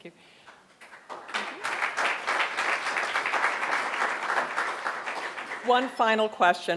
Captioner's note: applause